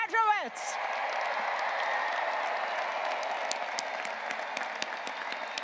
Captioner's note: graduates applauding and cheering